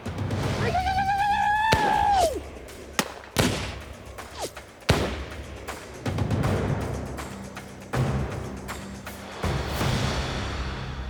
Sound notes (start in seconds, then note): 0.1 war cry; 2.7 gunfire